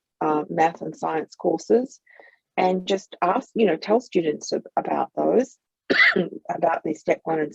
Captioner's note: coughs